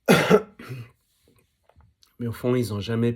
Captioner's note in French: raclement de gorge